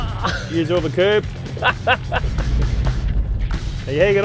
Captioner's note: laughs